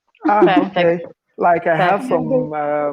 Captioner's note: chatter